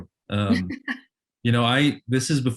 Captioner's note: laughs